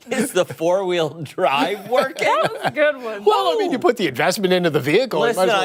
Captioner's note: laughter